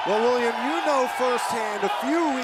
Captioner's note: crowd cheering